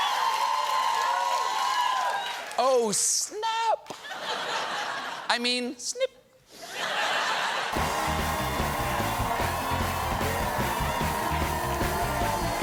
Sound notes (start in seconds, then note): 0.0 cheers and applause; 3.9 laughter; 6.5 laughter